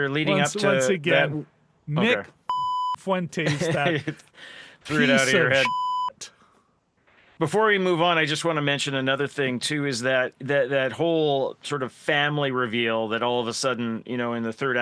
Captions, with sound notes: Once again, Nick Fuente's that piece of (beep) Before we move on, I just want to mention another thing too, is that whole sort of family reveal that all of a sudden, you know, in the third